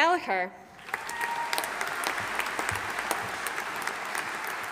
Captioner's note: audience applauding